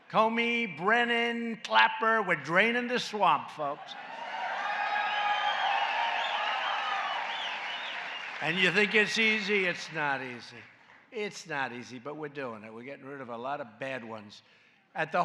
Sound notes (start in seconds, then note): 4.0 applause